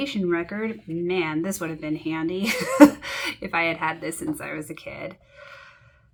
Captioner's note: laughs in hindsight